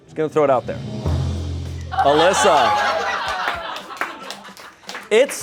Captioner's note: crowd laughs